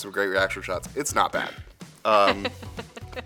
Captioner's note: laughs